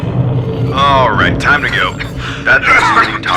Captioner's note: Adrian coughs violently